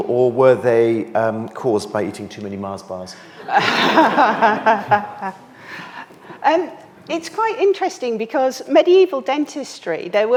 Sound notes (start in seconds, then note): 3.4 all laughing